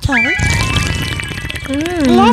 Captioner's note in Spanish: Sonidos de sorbido